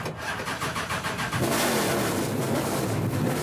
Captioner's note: engine starts